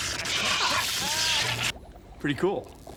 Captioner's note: <i> laughing</i>